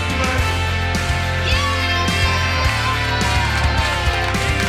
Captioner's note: upbeat music; cheering